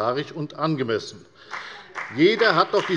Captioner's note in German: Beifall bei der FDP und bei Abgeordneten der CDU